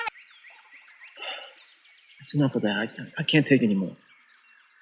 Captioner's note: phone clicks off; sighs; birds chirping